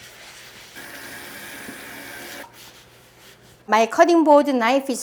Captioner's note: scrubbing; water running